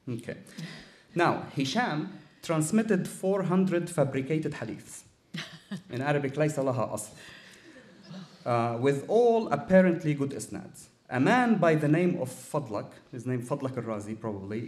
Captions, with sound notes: OK. Now, Hisham transmitted 400 fabricated Hadiths. In Arabic, [SPEAKING ARABIC]. With all apparently good isnads. A man by the name of Fadlah, his name, Fadlah Arazi, probably,